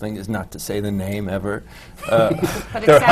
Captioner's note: laughter